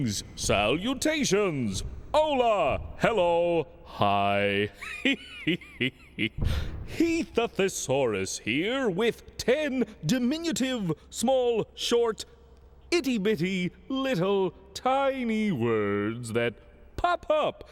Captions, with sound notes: SALUTATIONS! HOLA! HELLO! HI! ( chuckles ) HEATH THE THESAURUS HERE WITH TEN DIMINUTIVE, SMALL, SHORT, ITTY-BITTY LITTLE, TINY WORDS THAT POP UP